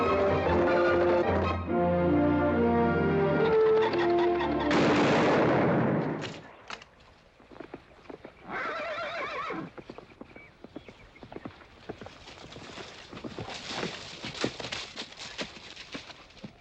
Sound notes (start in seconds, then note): 4.6 gunshot; 8.4 horse neighing; 9.7 hooves trotting